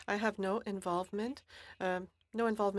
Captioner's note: speaking French